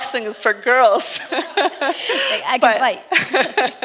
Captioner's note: laughs